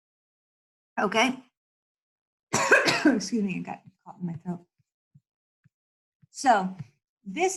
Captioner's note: coughs